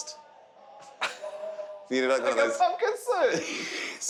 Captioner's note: laughing